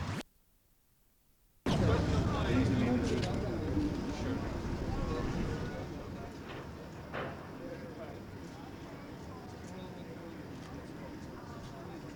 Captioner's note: crowd noise